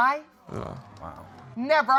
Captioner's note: audience exclaiming